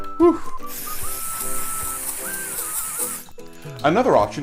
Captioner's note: spraying